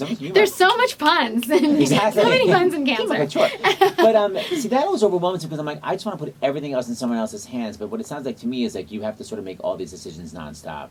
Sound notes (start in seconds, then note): 0.0 laughter; 3.6 laughing